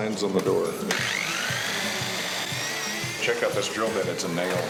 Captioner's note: drill whirring